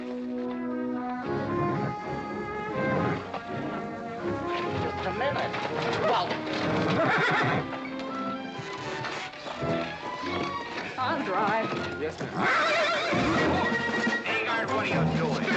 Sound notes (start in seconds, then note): 0.7 upbeat music; 5.7 horse neighing; 8.6 carriage creaking; 12.2 horse neighing and throwing a fit